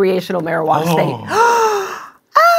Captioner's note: gasps